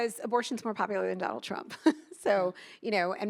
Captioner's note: chuckles